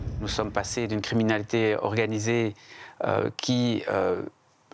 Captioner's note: French spoken audio